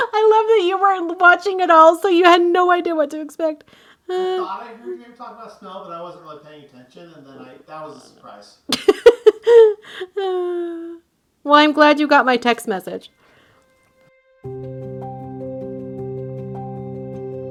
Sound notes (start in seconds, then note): 8.7 laughing; 14.4 soft upbeat music